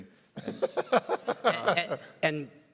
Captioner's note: everybody laughs